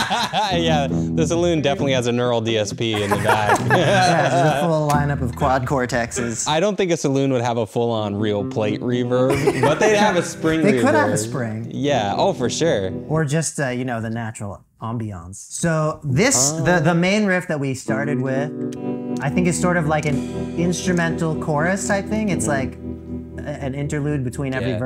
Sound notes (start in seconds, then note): 0.0 laughing; 2.9 laughing